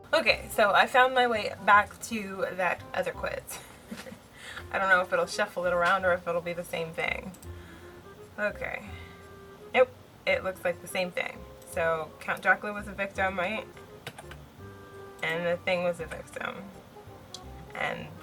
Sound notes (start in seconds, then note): 3.6 laughs